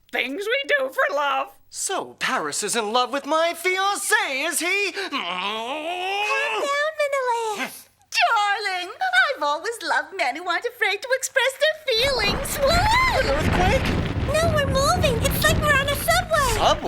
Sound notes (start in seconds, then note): 5.0 grunts; 12.5 screams